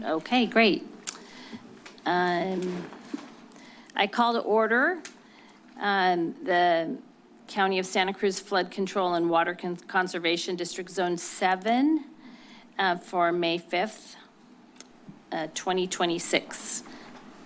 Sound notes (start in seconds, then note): 1.2 clicks tongue